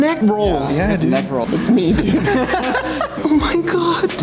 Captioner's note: laughter